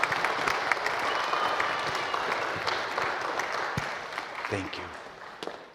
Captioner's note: applause